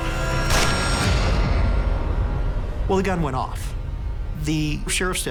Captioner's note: gunshot